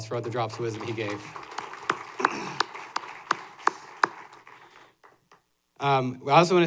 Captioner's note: applause